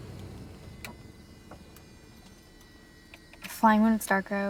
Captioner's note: engine shuts down